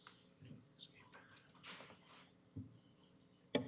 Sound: whispering

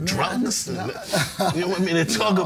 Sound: laughing

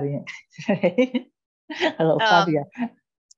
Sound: chuckles

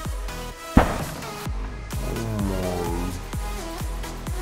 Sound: ball hitting board

